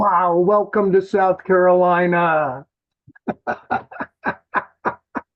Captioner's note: laughs